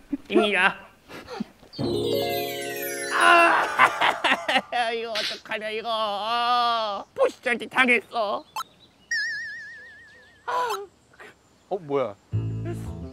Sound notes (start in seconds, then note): 4.9 Pengsoo bursts into tears after finding a magpie feather